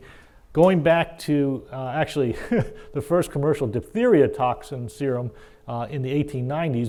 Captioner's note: laugh